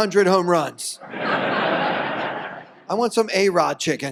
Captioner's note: audience laughs